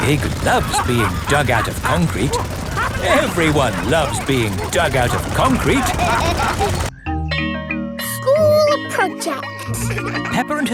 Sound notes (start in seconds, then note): 3.2 all laughing; 6.9 school bell rings